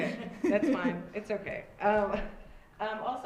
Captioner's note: laughs